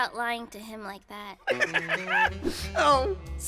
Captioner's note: Giovanni laughs